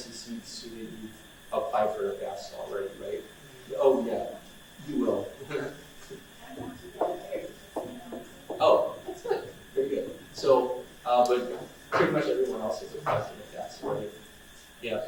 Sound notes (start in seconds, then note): 6.7 woman mumbles in audience